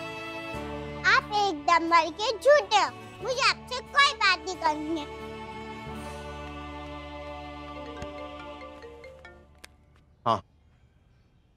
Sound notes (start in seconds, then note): 8.0 Phone ringing